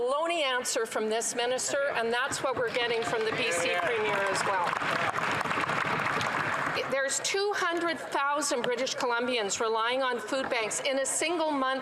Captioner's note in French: voix de l'interprète